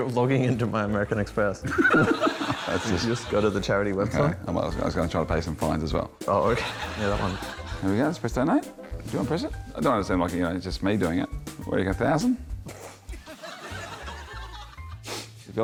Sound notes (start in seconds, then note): 1.7 laughs; 13.1 laughter; 13.6 snorts